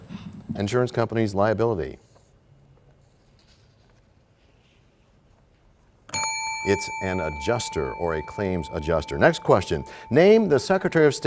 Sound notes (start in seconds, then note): 6.1 bell rings, time expires